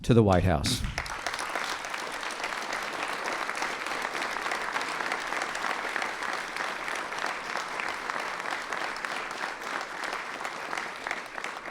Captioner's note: applause